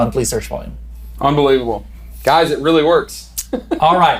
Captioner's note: laughs